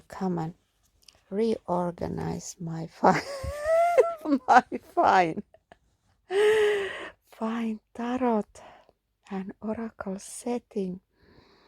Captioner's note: laughter